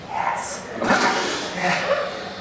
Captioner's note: hissing